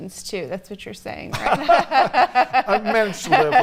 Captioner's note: laughing